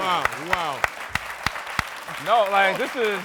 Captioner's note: applause